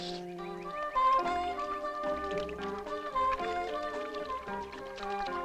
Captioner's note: birdsong